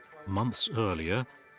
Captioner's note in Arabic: الصوت المنطوق باللغة الألمانية